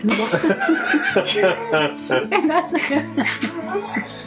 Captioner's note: laughing